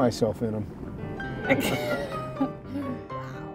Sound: woman laughs

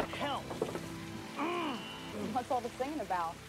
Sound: Jakob growls

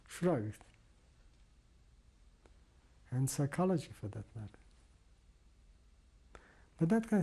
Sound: pauses for 3 seconds

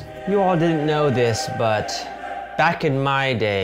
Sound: drawling

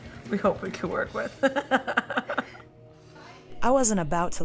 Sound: laughs

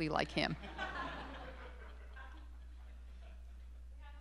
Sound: students laughing

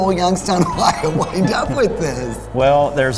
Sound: laughs

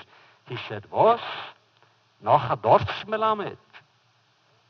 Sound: foreign language

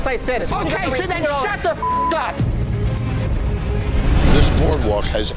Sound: beep

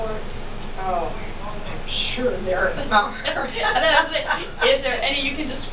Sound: laughter

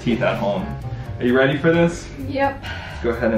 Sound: sighs

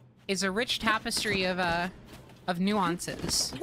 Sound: none

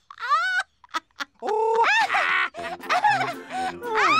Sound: laughs; giggles

